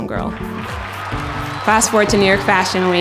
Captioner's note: cheering